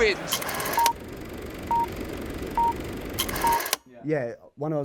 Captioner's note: countdown timer ticking